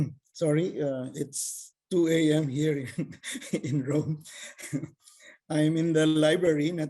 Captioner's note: laughs